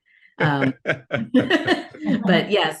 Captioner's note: laughs